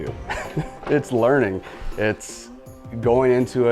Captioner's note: laughs